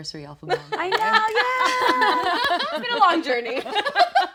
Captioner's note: group laughing